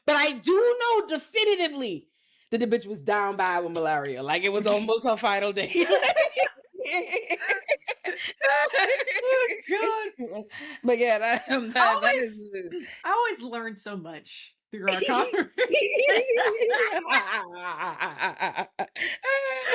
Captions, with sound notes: But I do know definitively that the bitch was down by with malaria, like it was almost her final day. (laughing) Oh my God. But yeah, that is- I always learned so much through our conversation. (laughing)